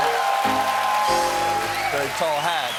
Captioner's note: cheers and applause